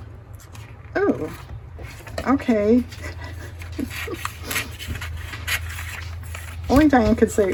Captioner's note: laughs